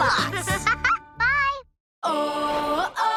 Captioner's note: giggles